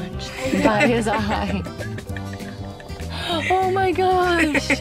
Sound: laughing

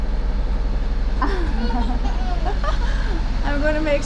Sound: laughter

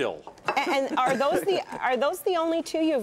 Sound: laughter

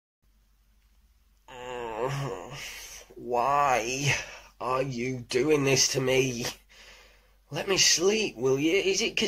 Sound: groans

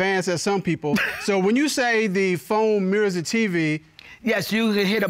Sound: chuckles

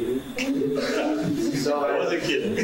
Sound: crowd laughing

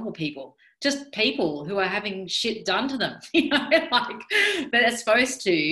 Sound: laughing

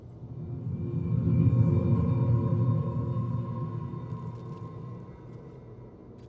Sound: ghostly hum crescendos then fades

